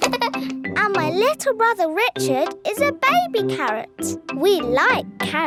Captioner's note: giggles